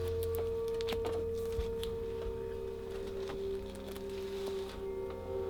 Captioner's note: pages flipping